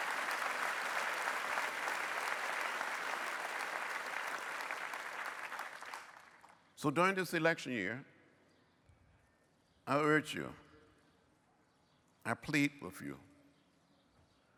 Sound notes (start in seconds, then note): 0.0 applause